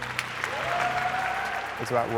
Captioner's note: audience applause